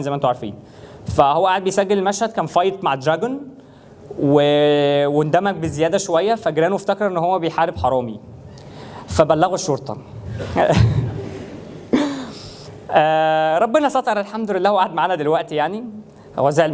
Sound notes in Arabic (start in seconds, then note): 10.4 ضحك الجمهور